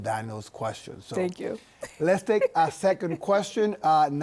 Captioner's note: laughs